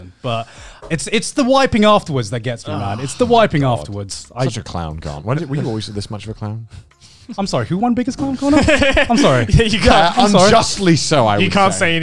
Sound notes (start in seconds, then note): 8.4 laughing